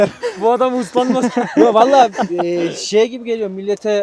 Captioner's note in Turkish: Gülüşmeler